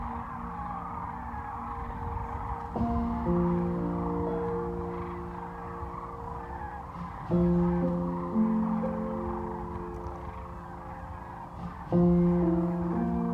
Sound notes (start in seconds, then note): 3.6 crane calls